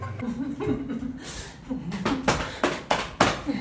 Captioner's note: laughing; smacking